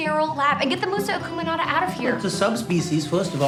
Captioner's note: speaking in foreign language